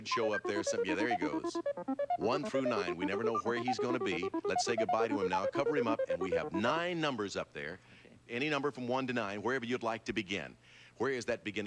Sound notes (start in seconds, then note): none